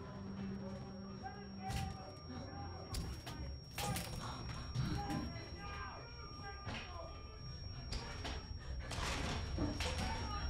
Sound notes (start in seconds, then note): 1.1 door breaking apart; 3.1 mob shouting